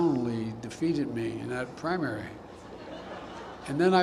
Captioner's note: laughter